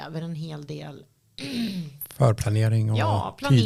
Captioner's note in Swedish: harklar sig